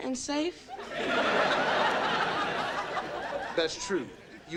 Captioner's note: audience laughing